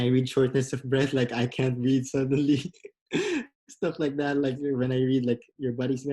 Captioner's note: laughs